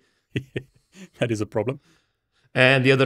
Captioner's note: laughs